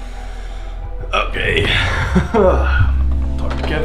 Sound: laughs

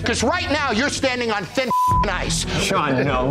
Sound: beeps

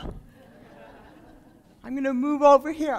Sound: laughter

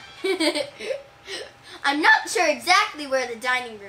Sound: chuckles

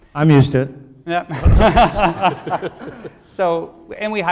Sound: laughing

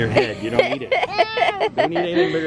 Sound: laughter

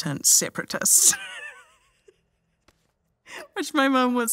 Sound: laughs

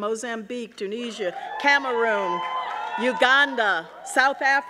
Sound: audience cheering

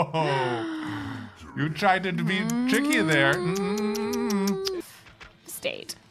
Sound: tsk tsk

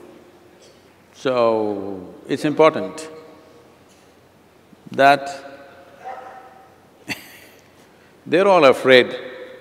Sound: laughs

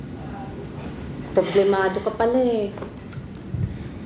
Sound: sighs

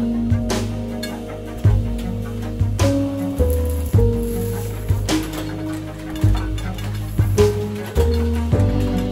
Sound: rat-tat-tat of press, swoosh of rollers on ink

